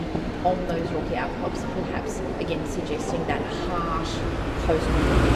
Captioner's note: voice fades out